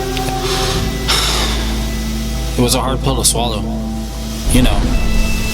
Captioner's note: sighs